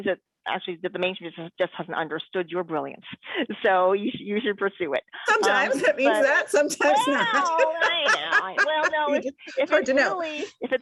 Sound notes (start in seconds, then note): 6.8 laughs